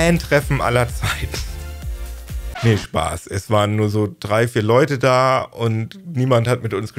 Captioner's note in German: record scratch